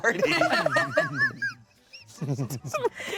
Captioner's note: laughter